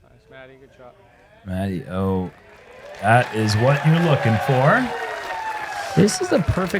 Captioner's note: applause